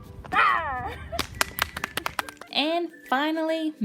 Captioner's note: clapping from off screen